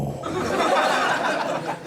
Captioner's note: audience laughing